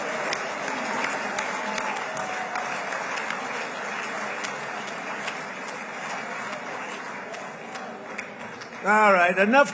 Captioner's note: applause